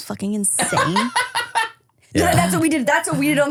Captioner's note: laughs